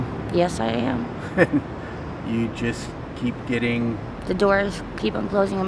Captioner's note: laughs